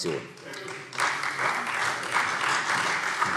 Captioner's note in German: Beifall CDU und Freie Demokraten